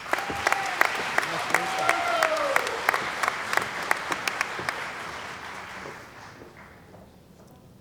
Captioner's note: cheering & Applause